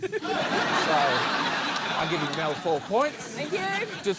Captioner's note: laughter